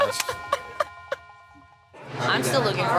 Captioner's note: laughing